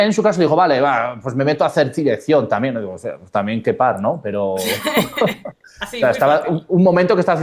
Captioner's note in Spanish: risas